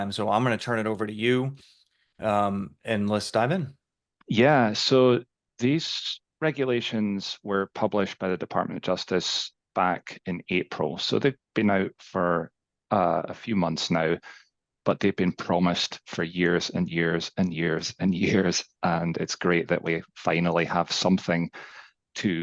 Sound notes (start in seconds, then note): 18.2 chuckles